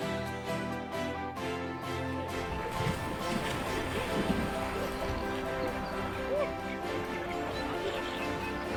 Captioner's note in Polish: pluskanie wody, odgłosy zabawy, śmiechy